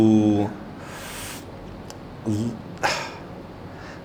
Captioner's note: sighs